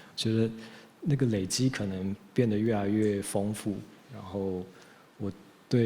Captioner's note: speaking in Taiwanese language